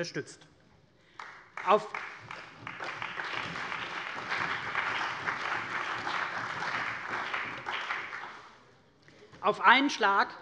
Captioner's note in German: Beifall bei der CDU und dem BÜNDNIS 90/DIE GRÜNEN